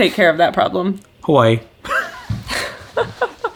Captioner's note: laughs